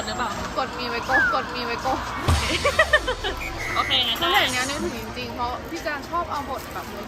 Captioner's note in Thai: เสียงหัวเราะ